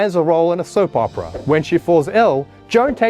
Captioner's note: air whooshing